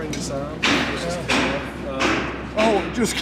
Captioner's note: hammer bangs